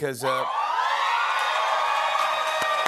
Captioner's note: cheers and applause